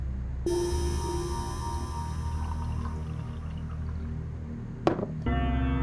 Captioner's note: pouring Liquid; sad, Ominous Music